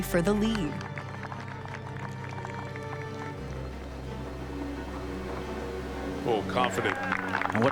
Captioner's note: dramatic music; crowd applauds